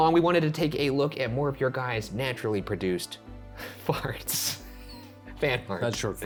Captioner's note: laughs